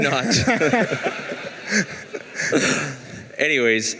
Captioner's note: laughing